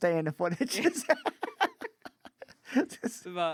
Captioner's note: laughing